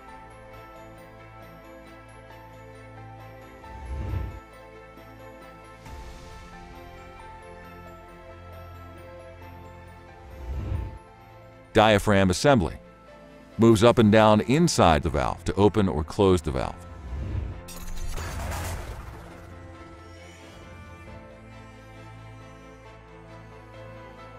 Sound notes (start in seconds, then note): 0.1 bright instrumental music continues; 17.8 metal clanking; 19.7 bright instrumental music continues